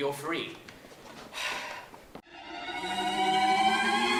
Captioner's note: sighing